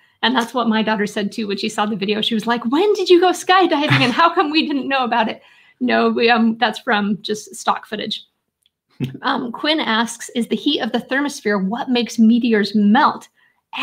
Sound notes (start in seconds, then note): 3.8 laughing